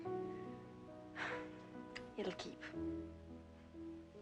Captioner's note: exhales